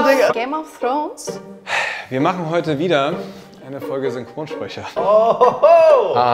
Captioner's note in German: seufzen